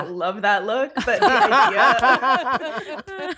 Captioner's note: laughs